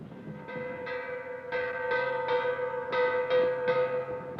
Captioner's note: bell clanging